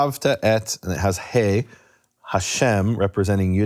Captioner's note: speaking in foreign language